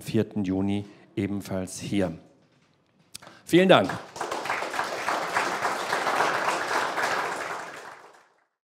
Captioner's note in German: Applaus